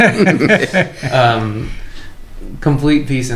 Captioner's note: laughter